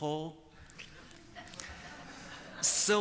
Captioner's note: laughter